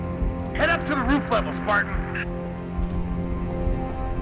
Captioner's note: radio